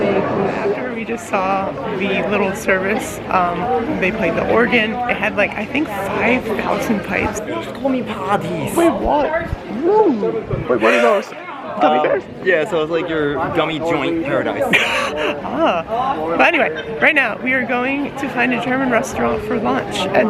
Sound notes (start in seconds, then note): 7.7 speaks German; 14.6 lols